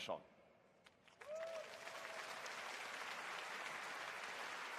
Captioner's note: applause